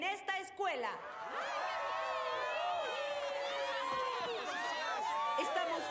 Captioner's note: cheers